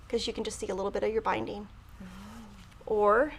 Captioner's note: none